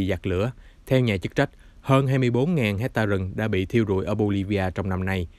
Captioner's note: fan